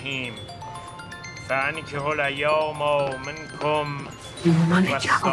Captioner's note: mobile ringing